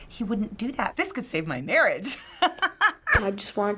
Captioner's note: laughs